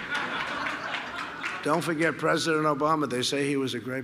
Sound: laughter

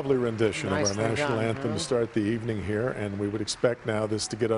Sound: cheers and applause

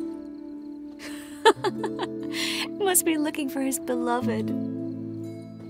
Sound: laugh

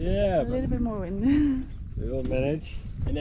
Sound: chuckles

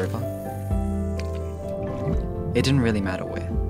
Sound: reel whistles, water splashes

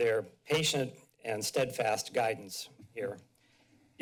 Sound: none

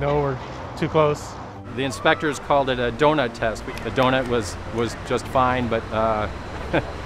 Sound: laughs

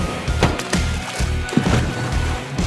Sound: boat engine roaring; water splashing; upbeat rock music

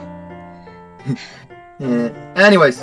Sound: laugh

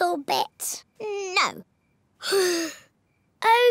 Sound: sighs

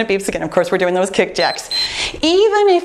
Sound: timer beeps

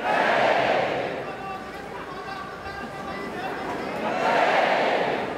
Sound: A person chants a sentence in Sanskrit

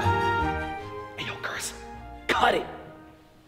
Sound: whispers

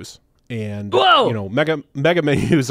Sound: shouts

